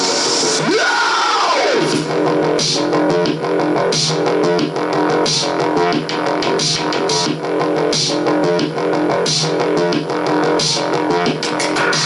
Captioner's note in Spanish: grito